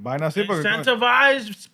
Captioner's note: non-english Speech